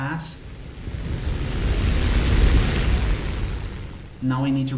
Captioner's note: aircraft Engines ,Gunfire, Flying Sounds